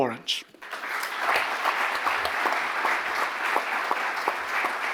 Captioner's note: audience applauding